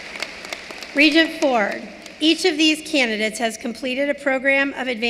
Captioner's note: cheering and applause